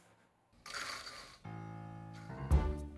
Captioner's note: food dropping